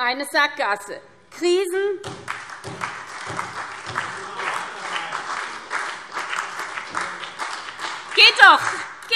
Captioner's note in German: Beifall SPD, BÜNDNIS 90/DIE GRÜNEN und vereinzelt CDU